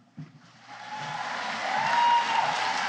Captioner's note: applause